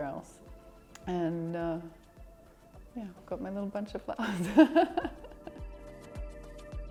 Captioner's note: laughs